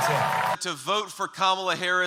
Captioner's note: cheering